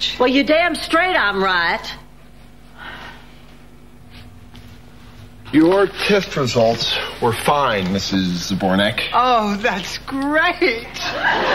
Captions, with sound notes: Well, you damn straight, I'm right. (sighing) Your TIFF results were fine, Mrs. Zabornak. Oh, that's great.